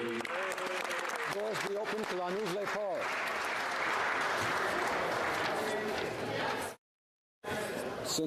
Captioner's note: applause